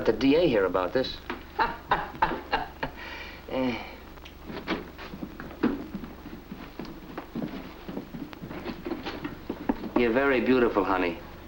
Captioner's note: laugh